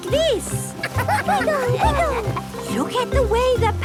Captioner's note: laughter